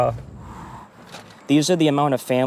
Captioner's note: sighs